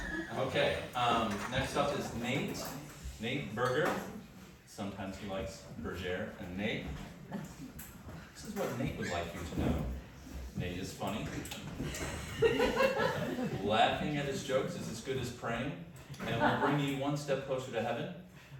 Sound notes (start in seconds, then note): 11.8 laughter